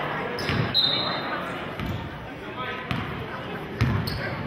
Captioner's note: whistling